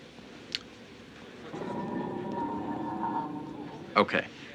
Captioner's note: scrapes